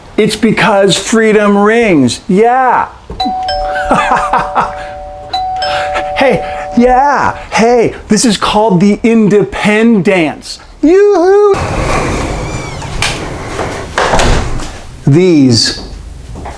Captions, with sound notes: It's because freedom rings. Yeah. (bell rings) (man laughs) (bell rings) Hey, yeah! Hey, this is called the independance. Yo-hoo! These...